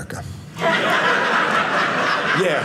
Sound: audience laughing

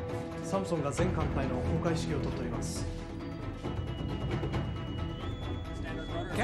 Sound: sailor speaking in foreign language

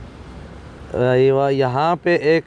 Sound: Arabic

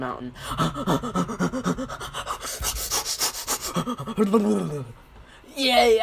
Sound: panting

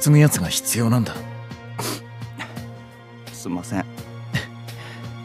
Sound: sniffs

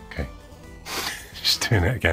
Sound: chuckles

